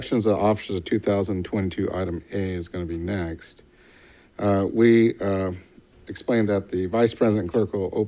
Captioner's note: none